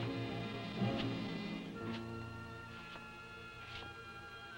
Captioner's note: Popoca shuffling